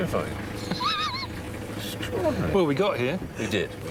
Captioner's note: zebra braying